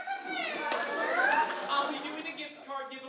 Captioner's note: audience laughing